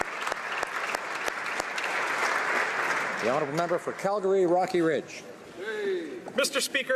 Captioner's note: applause